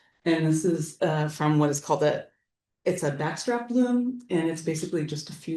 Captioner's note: none